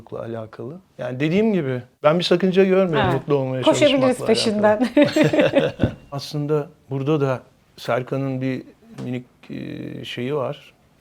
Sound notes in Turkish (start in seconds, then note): 4.8 kahkaha